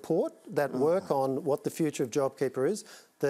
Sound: groans

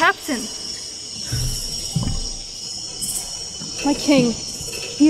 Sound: footsteps

